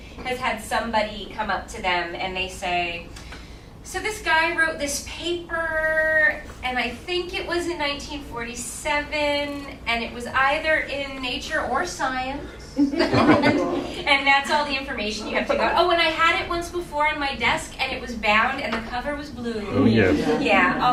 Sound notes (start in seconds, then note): 12.8 laughing